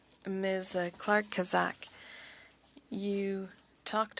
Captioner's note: speaking French